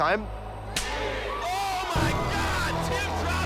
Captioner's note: hand slapping